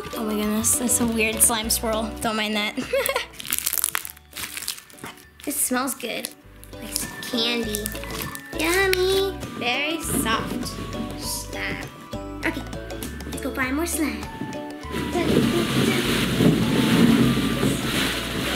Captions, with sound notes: Oh my goodness, that's a weird slime swirl. Don't mind that. (slime crunching) It smells good, like candy. Yummy. Very soft. Okay, let's go find more slime.